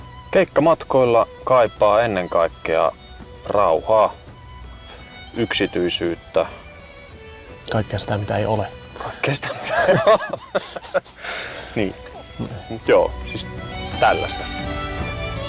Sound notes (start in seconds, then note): 9.4 laughs